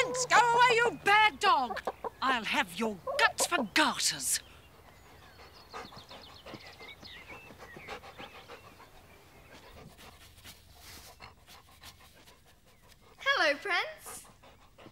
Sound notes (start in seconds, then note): 0.0 barking; 0.0 clucking; 5.4 panting